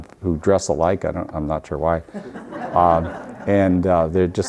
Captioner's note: audience laughing